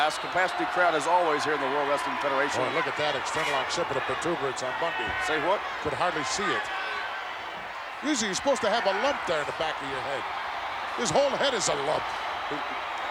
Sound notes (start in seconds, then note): 3.9 audience drowns out Gorilla